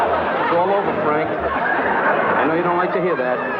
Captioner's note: laughing